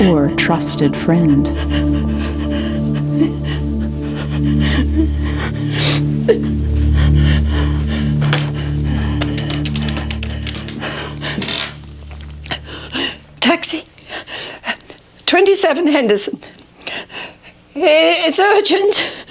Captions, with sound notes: OR A TRUSTED FRIEND. [SOBBING] [PANTING] TAXI? 27 HENDERSON. IT'S URGENT.